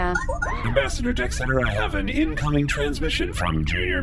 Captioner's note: beeps and boops of an incoming transmission